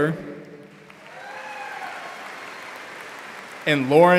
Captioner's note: audience applauding